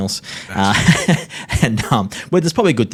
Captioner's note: laughs